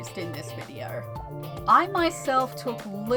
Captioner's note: none